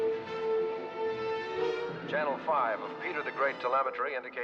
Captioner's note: man Over Radio